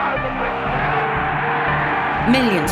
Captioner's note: crowd cheers